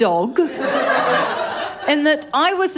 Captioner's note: laughter